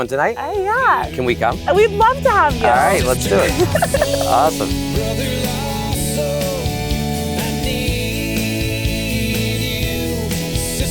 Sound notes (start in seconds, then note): 2.6 chuckles